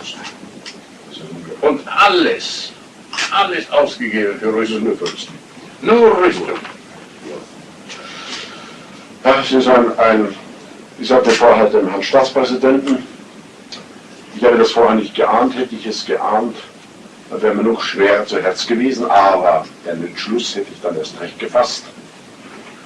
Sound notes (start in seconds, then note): 7.9 sighs